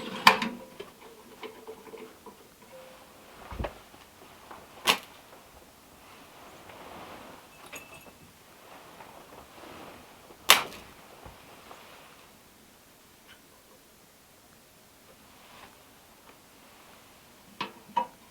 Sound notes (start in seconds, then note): 10.8 match scrapes